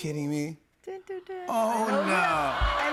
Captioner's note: cheers and applause